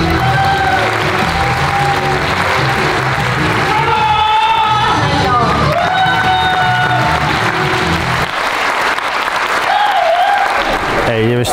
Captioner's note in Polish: oklaski